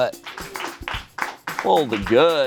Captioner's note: friends clap